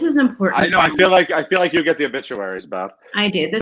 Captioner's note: claps